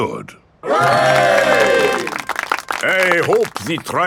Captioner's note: clapping